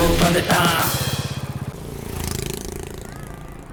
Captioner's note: humming